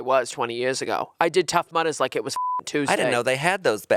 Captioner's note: beep